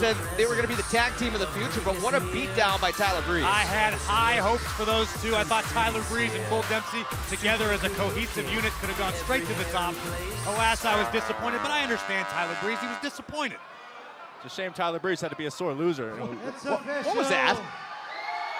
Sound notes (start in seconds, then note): 16.8 crowd chatter